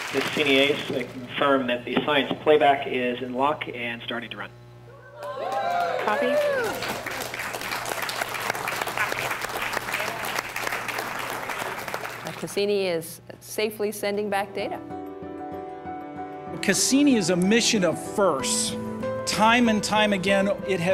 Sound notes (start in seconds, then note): 5.0 cheers; 5.2 applause